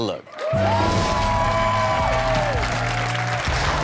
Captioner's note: audience cheers